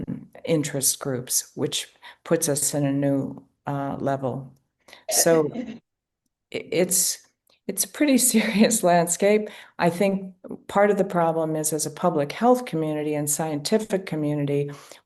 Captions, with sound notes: interest groups, which puts us at a new level. So it’s a pretty serious landscape. (Laughs.) I think part of the problem is, as a public health community and scientific community,